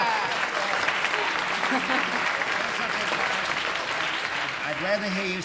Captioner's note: laughter, applause